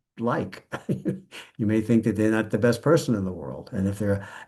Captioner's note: laughs